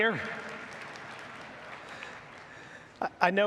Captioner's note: audience applauds